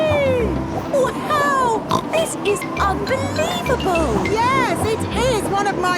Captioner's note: snorts